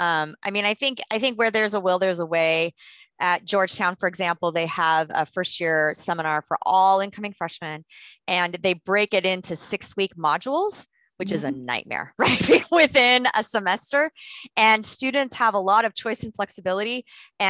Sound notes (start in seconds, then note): 12.2 laughter